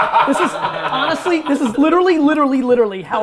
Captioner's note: group laughter